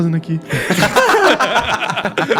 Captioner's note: laughs